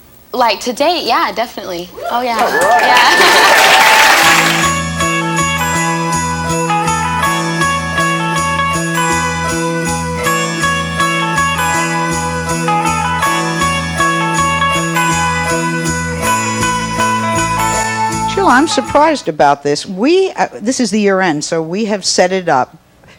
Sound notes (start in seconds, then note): 2.4 audience clapping; 4.3 holiday music